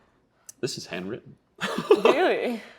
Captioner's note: laughing